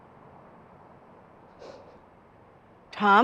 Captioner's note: Tom scoffs